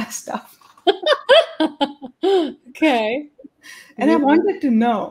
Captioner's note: laughs